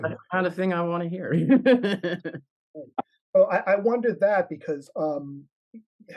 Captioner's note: laugh